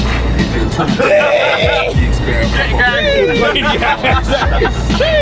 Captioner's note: all yelling